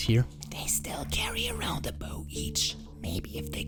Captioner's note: whispering